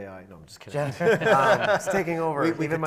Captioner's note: panel laughs